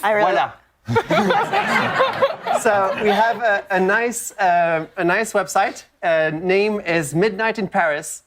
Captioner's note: laughter